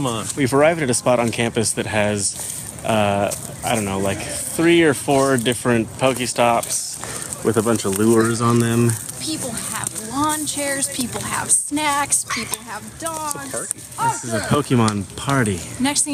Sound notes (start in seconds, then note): 12.2 dog barks; 14.0 girl yelling at dog in background